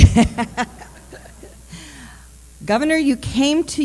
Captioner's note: laughter